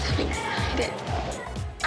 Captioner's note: laughs